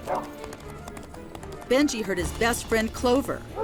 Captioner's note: dog barks